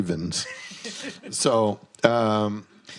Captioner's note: host laughs